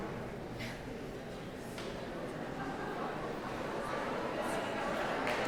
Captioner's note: audience chattering